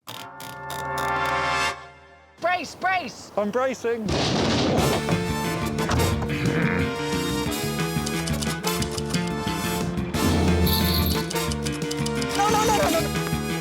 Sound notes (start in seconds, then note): 3.6 theme music playing; 4.1 thudding; 6.2 grunting; 8.0 typewriter clacking